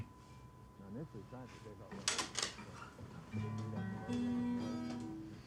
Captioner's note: Abe speaking faintly